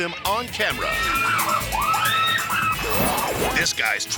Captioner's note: people screaming